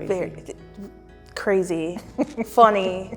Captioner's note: laughs